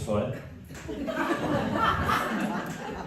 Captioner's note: laughter